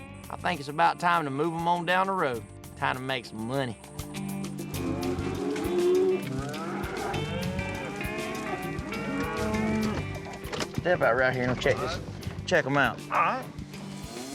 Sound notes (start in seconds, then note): 4.7 mooing; 9.8 door opens